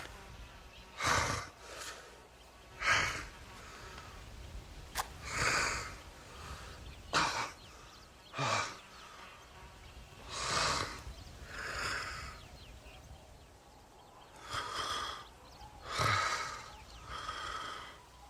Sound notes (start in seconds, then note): 2.7 breathing heavily; 4.9 match striking; 15.7 breathing heavily